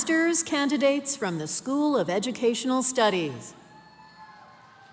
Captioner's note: applause